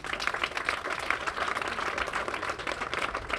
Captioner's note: applause